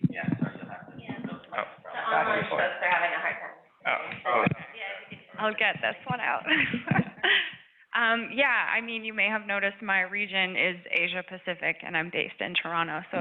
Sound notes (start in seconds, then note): 6.3 laughs